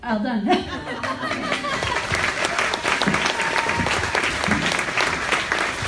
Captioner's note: audience applauds